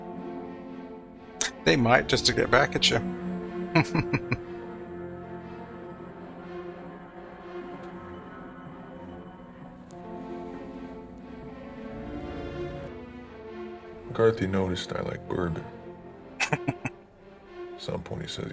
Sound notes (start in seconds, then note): 3.7 chuckling; 16.4 chuckling